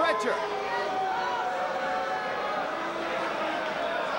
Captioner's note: spectators cheering